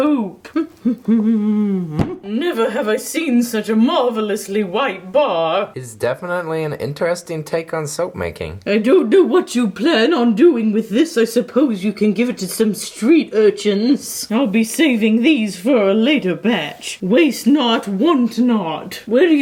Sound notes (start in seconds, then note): 0.3 humming